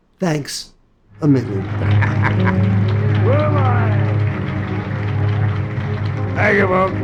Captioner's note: audience applauding; laughs